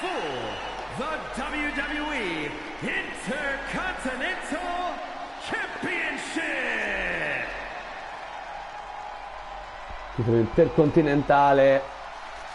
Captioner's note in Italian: Applauso